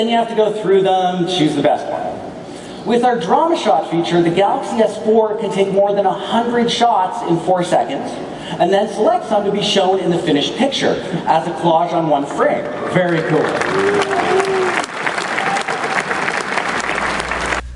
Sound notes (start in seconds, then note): 15.6 audience clapping